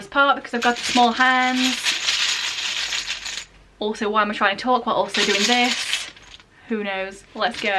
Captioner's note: shakes bag